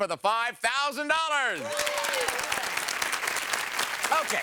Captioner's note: audience applause